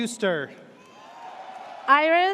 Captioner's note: audience cheers